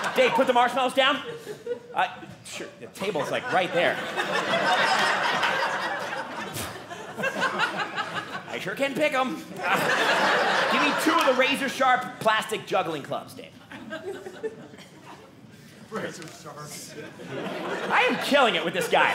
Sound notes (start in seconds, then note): 3.0 audience laughing